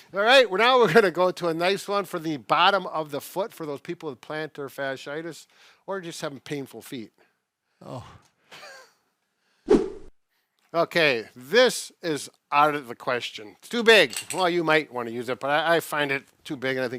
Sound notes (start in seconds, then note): 8.5 chuckles; 9.6 swipe sound effect